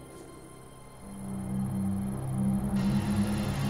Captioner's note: cicadas; suspenseful music